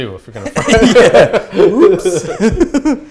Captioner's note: laughing